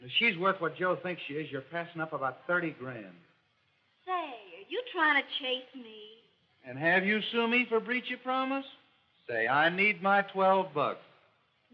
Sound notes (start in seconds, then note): none